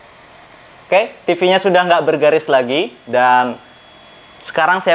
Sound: distortion

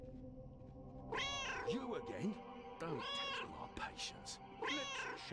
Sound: Hodge meowing; Hodge meows

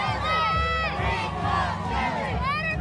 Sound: protesters chanting

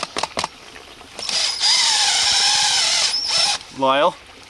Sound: whirring

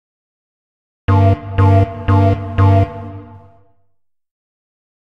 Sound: sound of alarm

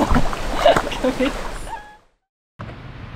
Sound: laughs

